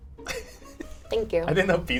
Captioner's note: laughs